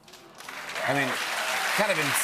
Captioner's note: applause